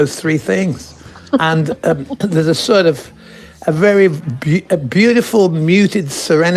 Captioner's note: laughs shyly